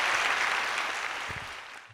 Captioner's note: applause